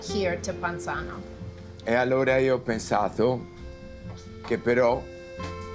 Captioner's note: Dario speaking Italian